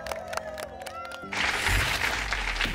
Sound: applause

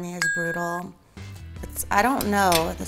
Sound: bell dings

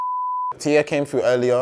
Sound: beeping

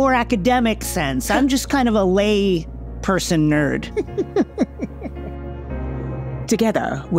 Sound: laughs

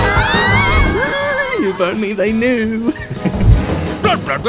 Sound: both screaming; squeel; chuckle

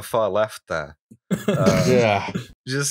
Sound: laughter

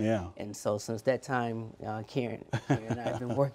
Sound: laughter

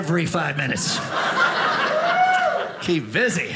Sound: audience laughing

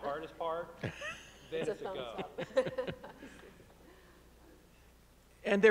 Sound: chuckles

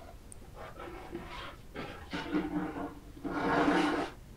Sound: scratching sounds from behind the door

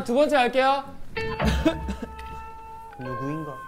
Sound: Retainer: cough, cough, cough

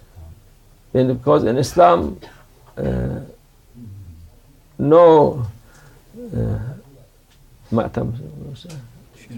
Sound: mourning

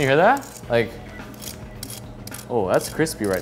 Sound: tongs rasping

